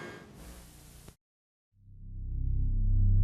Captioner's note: VHS glitches